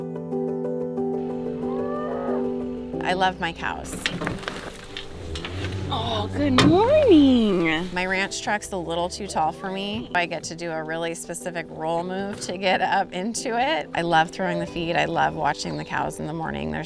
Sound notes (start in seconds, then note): 5.2 cow moos